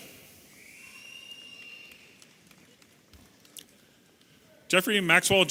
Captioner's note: audience whistling and cheering